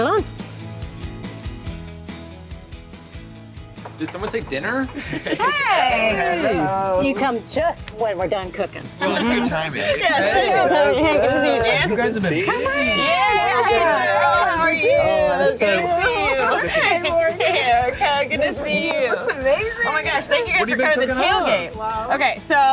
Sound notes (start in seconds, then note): 0.2 upbeat music; 4.8 group laughing